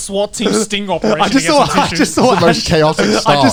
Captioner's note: laughs